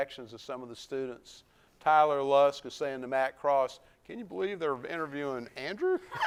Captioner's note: laughs